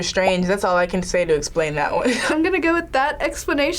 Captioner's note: laughs